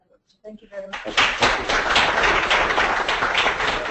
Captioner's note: applause